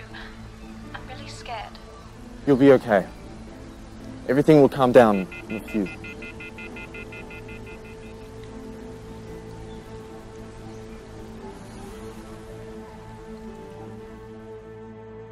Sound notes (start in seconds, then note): 5.1 disengaged signal on phone